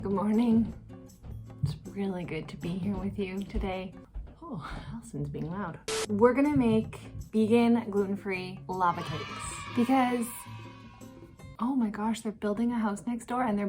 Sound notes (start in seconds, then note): 8.8 kids cheering